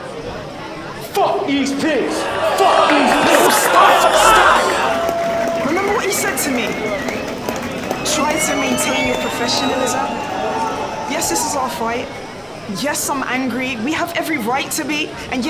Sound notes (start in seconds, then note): 2.9 crowd booing and shouting